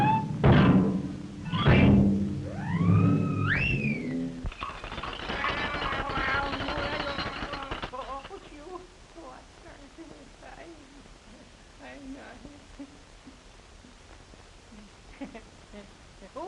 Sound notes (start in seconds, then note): 4.4 mechanical grinding; 15.0 chuckles